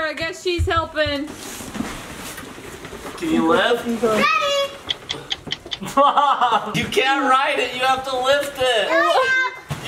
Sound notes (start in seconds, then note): 4.8 laughing